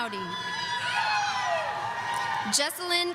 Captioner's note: audience cheering